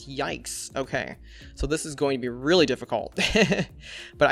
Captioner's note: laughs